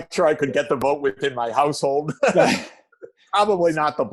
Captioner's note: Jeff laughs; chuckle